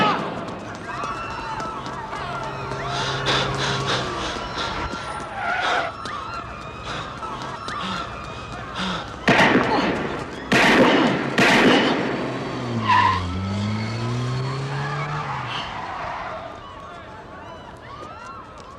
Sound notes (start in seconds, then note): 5.2 tires screech